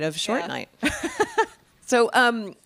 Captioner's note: laughing